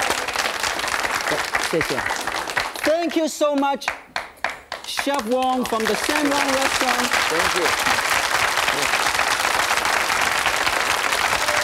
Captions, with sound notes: - (speaks in foreign language) Thank you so much, Chef Wong, from the San Wang restaurant. - Thank you. (audience claps)